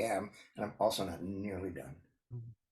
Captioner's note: laughs